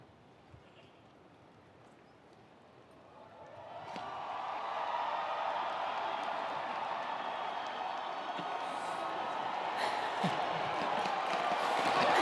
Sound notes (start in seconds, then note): 3.5 attendees cheering; 3.8 attendees applauding